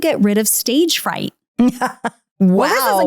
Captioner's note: laughing